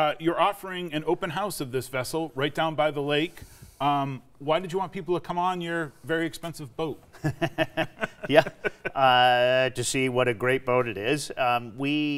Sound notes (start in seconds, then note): 7.1 laughing